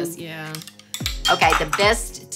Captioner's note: metal scrapes